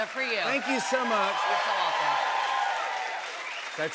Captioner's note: cheers and applause